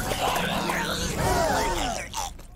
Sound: gasping

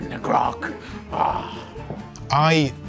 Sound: gruff pirate noise

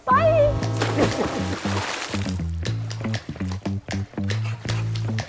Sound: upbeat music; water splashing; upbeat music

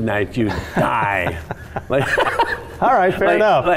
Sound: laughing

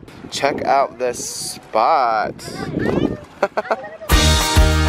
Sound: laughs; upbeat music

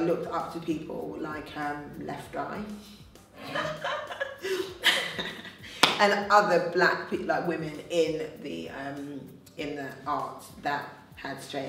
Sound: laughs

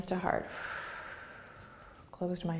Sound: exhaling

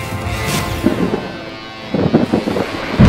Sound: thunder booms and lightning crackles

